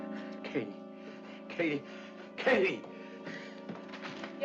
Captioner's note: suspenseful music; voice trembling